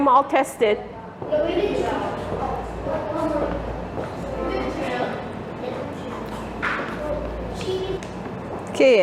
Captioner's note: background noise of kids talking about pH strip levels